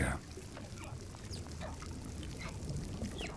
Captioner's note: whales calling